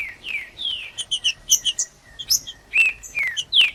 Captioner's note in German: trinca ferro cantando